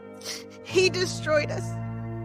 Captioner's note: snifes